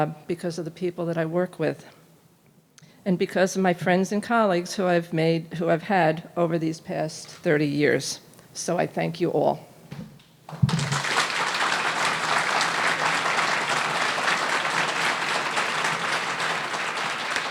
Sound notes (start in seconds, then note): 10.5 audience applauding